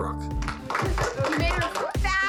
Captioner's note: clapping